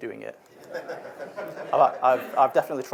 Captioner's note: audience laughs